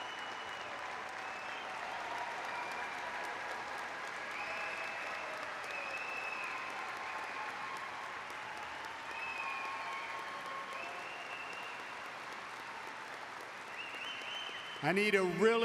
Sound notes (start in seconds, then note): 4.0 applause; 6.4 cheering; 7.5 cheers and applause; 9.3 applause; 11.8 cheers and applause